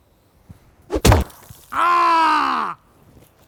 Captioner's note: painful Screaming